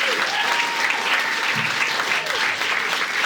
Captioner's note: audience cheering